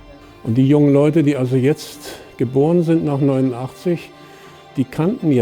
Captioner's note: speaking in German